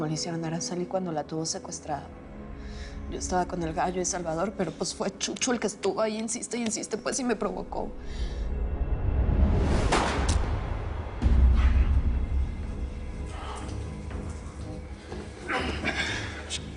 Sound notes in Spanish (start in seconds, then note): 9.8 Disparo; 15.4 Quejidos